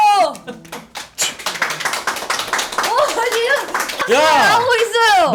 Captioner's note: applauding